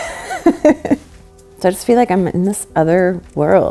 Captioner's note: laughs